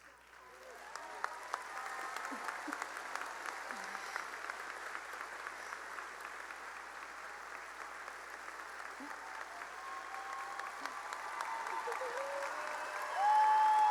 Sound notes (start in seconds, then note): 0.0 cheering and applause